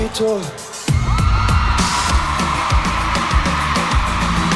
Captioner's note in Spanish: público aclama